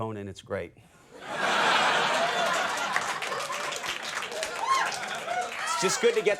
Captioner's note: audience laughing and applauding